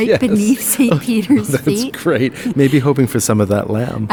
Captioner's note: laughs